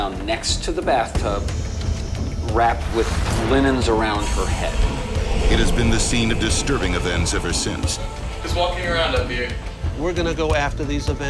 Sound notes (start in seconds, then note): 5.5 voiceover